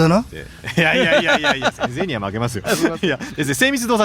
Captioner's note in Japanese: 笑い